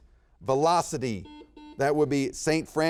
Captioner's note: buzzer beeps